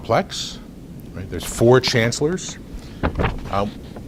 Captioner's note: rustles papers